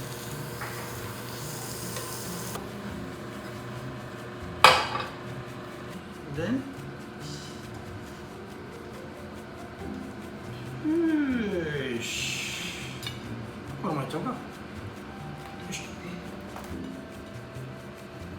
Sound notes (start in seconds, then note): 14.3 speaking Japanese